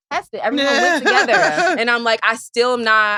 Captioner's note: laughs